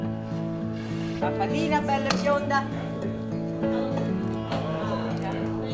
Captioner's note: relaxing music; speaking Italian; relaxing music